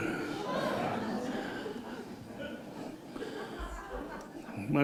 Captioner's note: laughter